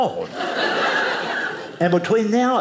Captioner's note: audience laughing